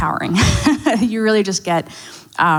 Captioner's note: laughs